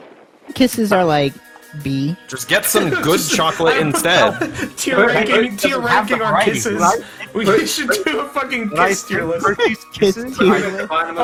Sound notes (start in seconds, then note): 2.6 laughing